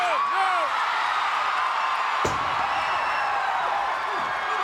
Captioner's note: crowd cheering